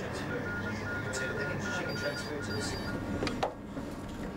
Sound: phone ringing; monitor beeping

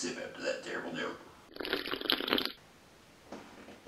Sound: Roblox bloxy cola sound effect

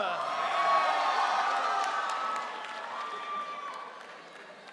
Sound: audience cheering

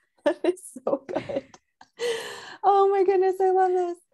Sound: laughs

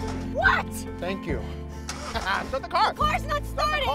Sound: laughs

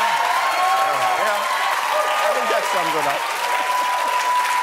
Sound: cheers and applause

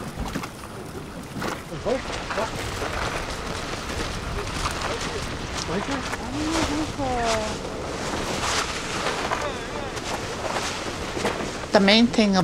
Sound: chatter

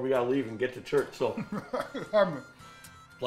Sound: laughing

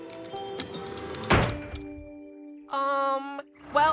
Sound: clank!

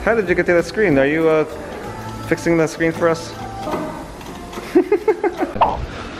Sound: laughing

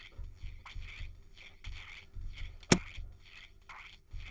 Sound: click

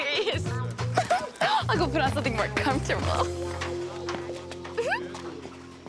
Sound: giggles; giggles

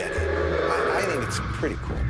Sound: growls

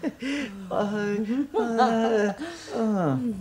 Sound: giggles

